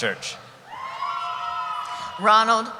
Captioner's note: cheering